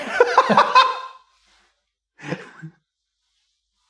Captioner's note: laughter